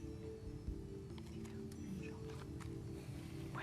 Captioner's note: whispering